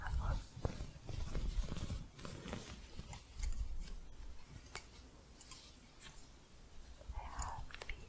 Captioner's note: soft scratching and gentle jingling